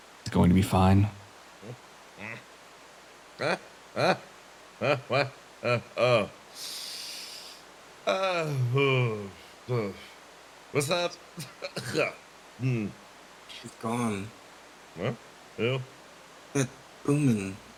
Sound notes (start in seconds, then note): 6.5 inhale